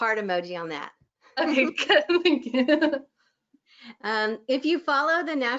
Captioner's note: laughs